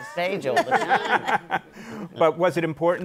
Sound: laughter

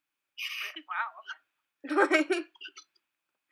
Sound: laughs

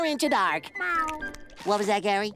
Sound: meowing

